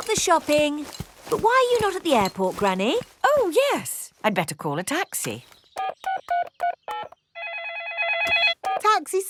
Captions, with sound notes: We've got the shopping. -But why are you not at the airport, Granny? -Oh, yes! -I'd better call a taxi. -(DIALING) (PHONE RINGING)